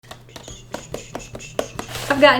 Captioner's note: tapping and drumming sounds